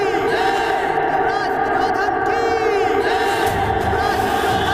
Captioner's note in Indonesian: berteriak